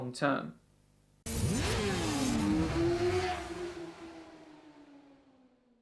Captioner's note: motorbike engines humming